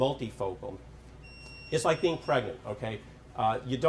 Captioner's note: electronic beeping